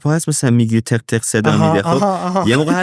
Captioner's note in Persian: خنده